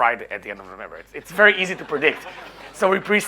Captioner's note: audience laughing